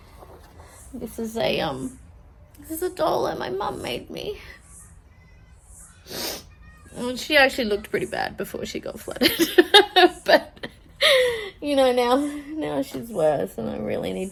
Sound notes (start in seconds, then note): 2.3 voice breaks with tears; 6.0 sniffs; 9.2 laughs